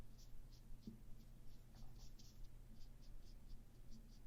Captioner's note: light dry brush strokes